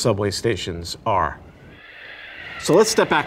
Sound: winter winds whooshing

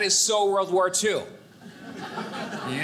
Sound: audience laughing

